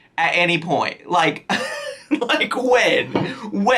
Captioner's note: laughs